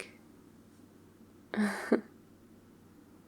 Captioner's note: laughs